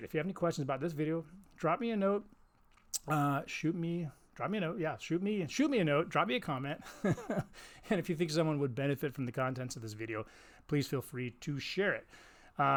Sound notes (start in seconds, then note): 7.0 laughs